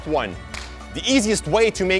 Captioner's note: clap